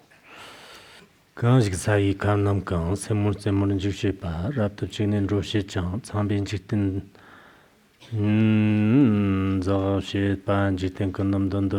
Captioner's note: giving oral transmission in Tibetan